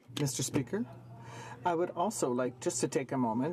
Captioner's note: speaking French